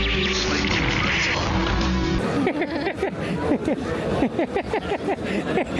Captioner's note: laughing